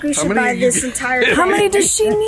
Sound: laughs

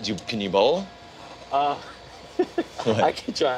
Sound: laughs

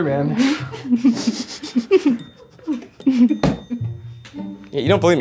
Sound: audience laughs

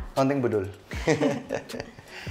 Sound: chuckles

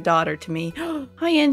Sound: gasp

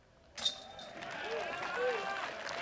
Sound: applause

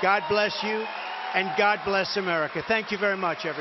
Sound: applause

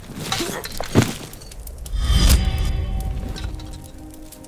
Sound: crashes to the ground

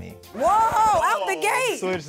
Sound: record scratches

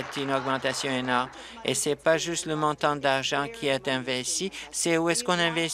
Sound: applause

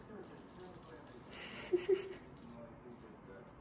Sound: laughs

